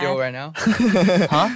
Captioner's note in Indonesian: tertawa